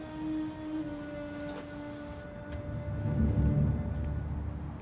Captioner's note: insects chirping